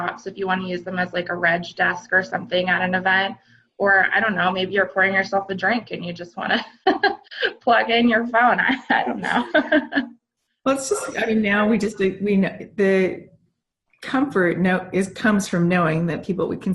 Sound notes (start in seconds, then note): 8.6 laughs